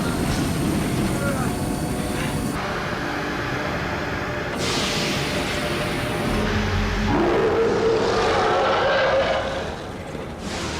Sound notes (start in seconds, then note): 7.0 loud roar